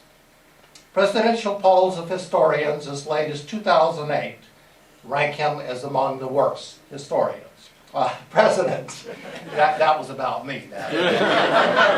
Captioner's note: laughter